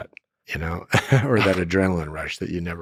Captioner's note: laughs